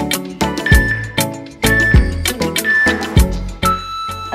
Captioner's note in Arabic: مؤقت يصدر صوت تنبيه